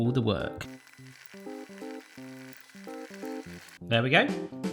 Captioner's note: relaxing music; fast forward whirring